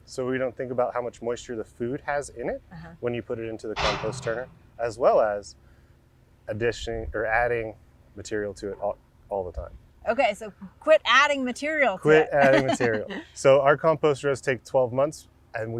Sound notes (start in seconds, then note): 3.8 excavator arm crashing; 12.0 laughs